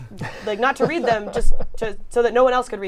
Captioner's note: laughter